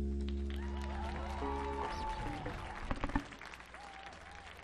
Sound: music fades; audience cheers and applauds

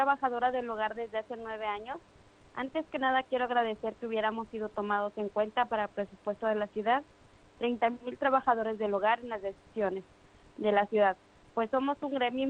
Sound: speaking foreign language

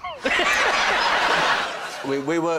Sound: laughter

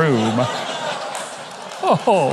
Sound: audience laughing

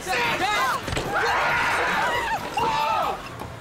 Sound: screaming

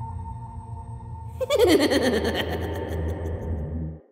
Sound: man giggles

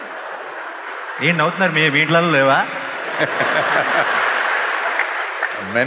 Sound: laughter; laughter

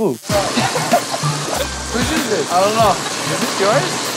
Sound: Vinny laughs

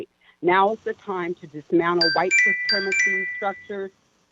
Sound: chime

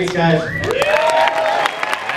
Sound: loud cheering

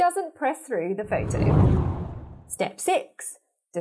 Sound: scene whooshes

